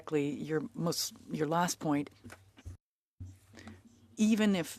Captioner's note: speaking french